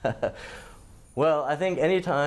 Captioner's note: laughter